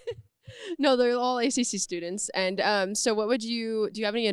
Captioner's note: laughs